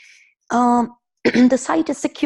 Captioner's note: clearing throat